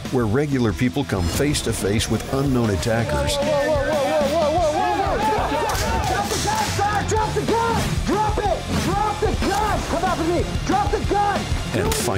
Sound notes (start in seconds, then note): 5.3 yelling; 8.6 intense music